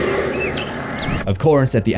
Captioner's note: Michael heavy breathing; birds chirping